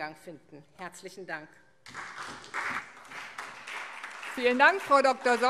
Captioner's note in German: Beifall SPD